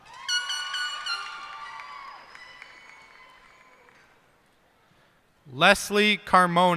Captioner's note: cheers and applause